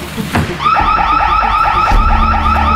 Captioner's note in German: Alarmanlage